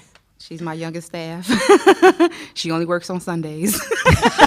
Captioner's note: laughter